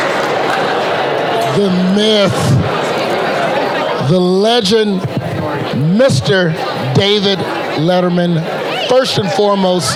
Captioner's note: Crowd conversing and cheering David Letterman